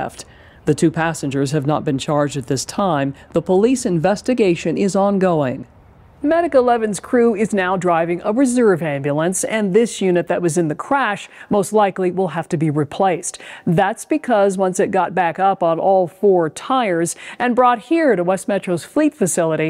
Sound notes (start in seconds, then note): none